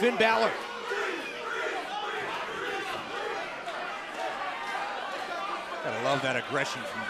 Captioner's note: crowd cheering